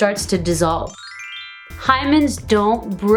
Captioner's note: bells chime